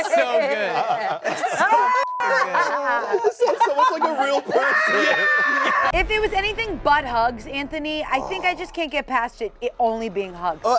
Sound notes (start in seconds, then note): 2.0 beep; 4.5 screams